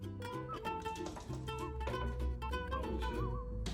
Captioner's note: tapping and clawing; fluttering and loud knocking